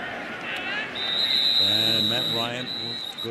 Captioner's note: whistle